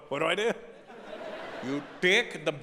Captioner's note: audience laughing